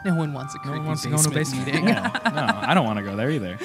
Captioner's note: chuckle